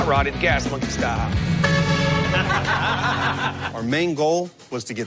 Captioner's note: horn honks, laughter